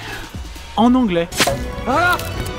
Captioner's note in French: Squelch, pop